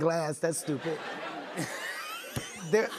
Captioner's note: laughs